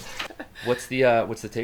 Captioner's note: laughing